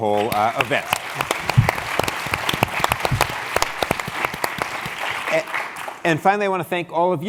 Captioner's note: applause